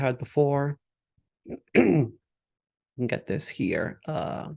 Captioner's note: throat clears